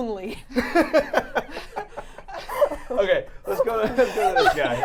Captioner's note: laughing